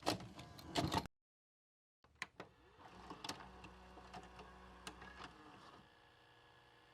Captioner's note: VCR noises, tape whirring